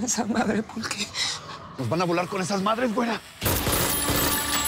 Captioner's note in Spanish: Disparos